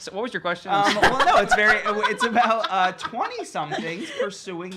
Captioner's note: laughing